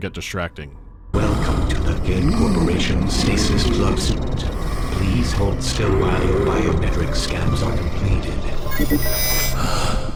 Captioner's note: wheezing; bleep-bloop